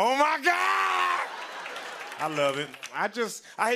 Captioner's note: laughter and applause